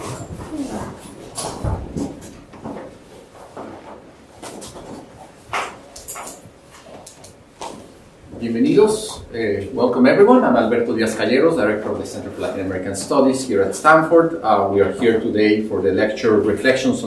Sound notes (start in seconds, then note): 8.4 speaking spanish